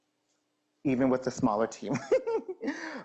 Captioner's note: laughing